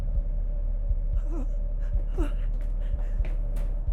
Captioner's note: Sue whimpering